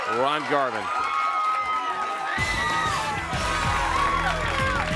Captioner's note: crowd chatter